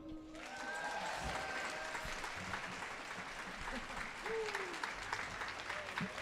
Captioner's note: audience cheering and applauding